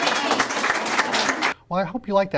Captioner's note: cheering and clapping sounds